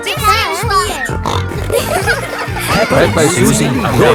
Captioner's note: snorting